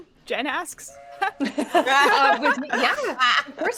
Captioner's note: all laughing